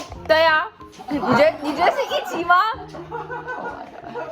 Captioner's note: adults laughing